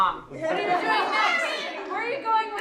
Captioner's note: laughter